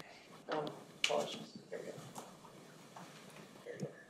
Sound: men murmuring

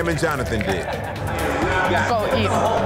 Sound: contestants laughing

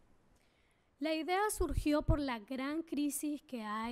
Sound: speaking spanish

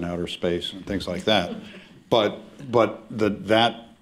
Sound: laughter

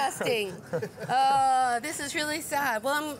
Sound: laughing

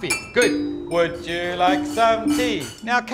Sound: glasses clinking

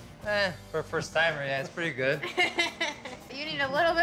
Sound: chuckling

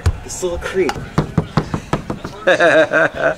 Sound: tapping; laughing

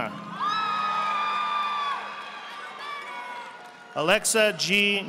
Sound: audience applauding

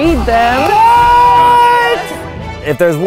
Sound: yelling

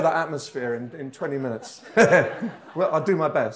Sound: laughs

